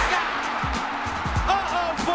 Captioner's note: cheering